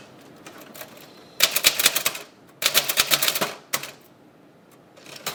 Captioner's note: typewriter clicking